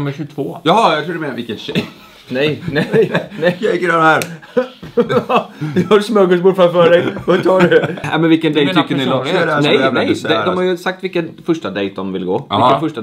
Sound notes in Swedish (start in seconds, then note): 4.4 skratt